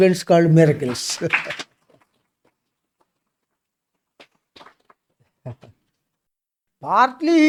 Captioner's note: claps